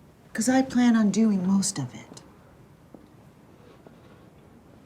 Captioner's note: none